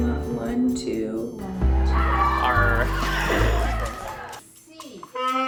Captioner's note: laughing